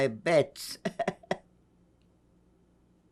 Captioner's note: laughing